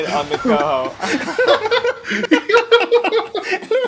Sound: laughter

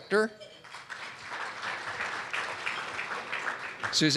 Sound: audience clapping

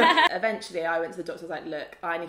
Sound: laughs

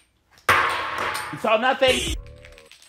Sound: bean rattling; bean twanging; bean rattling

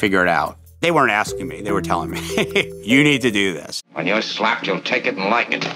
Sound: laughs

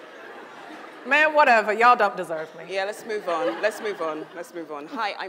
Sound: audience groans then chuckles; audience laughs

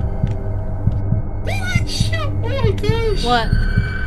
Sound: shouts in surprise

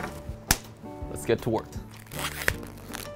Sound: rubber snapping; lively piano music

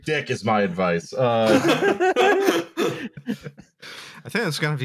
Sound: laughter

